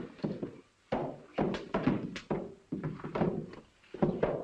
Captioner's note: banging